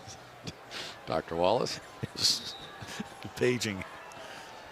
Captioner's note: laughs